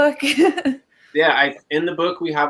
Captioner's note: laughs